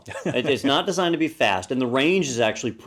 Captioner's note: laugh